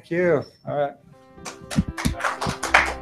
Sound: applause

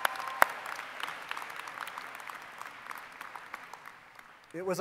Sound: applause

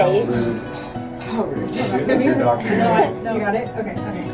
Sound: chattering

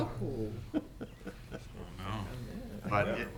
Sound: laughing

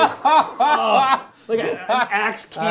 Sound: laughing

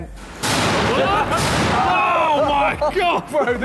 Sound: metal clanking

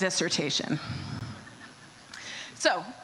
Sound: audience chuckles

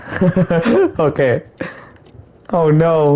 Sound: goofy ass laugh

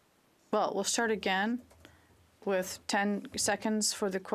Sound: speaking French

